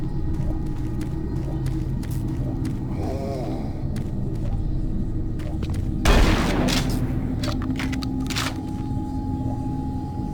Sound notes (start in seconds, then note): 0.0 ominous music; 1.5 gun firing